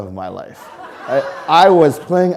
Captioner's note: audience laughing